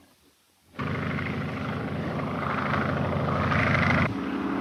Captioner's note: airplane buzzing